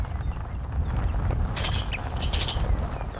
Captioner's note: tires rolling over dirt road; gate opening and closing